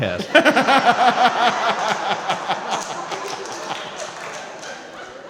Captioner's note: & crowd laughing